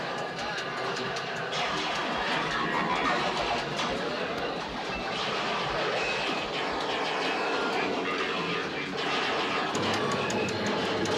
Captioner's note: sci-fi sounds